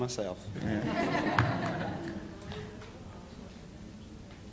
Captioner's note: laughter